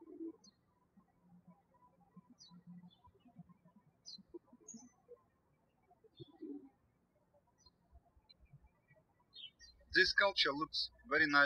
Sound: birds chirping

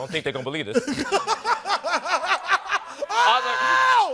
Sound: laughing

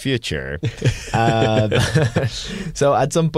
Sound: laughter

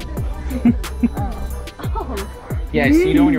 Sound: laughing

